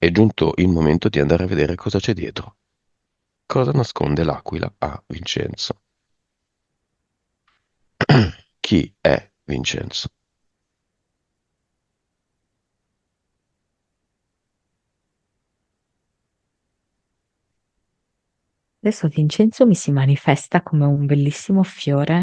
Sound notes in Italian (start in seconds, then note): 8.0 schiarire la voce